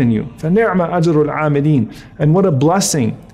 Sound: speaks Arabic

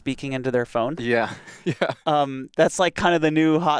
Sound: laughs

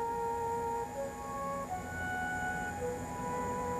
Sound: cicadas singing

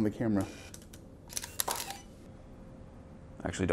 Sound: camera shutter clicks

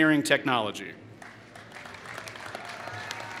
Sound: applause

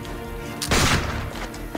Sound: gunshot

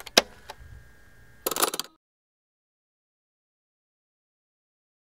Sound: answer machine clicking

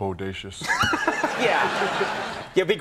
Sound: laughing

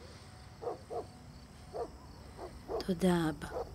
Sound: distant dog barking

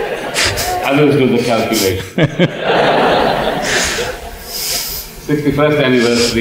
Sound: laughter; laughter

